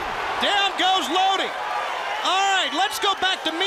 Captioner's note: crowd cheering